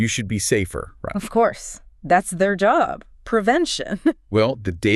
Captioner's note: chuckles